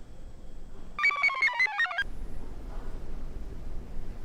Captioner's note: computer chirps